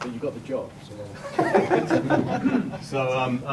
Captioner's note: laughter